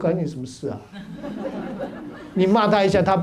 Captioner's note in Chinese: 哈哈哈